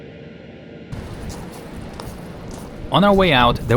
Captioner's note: footsteps crunching